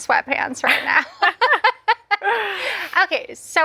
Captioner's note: laughs; both laugh